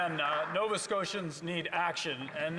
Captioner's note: applause